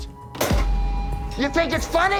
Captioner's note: plate clattering